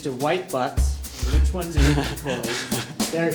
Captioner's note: laughter